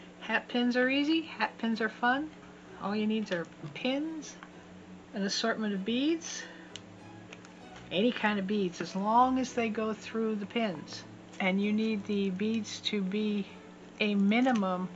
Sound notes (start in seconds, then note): none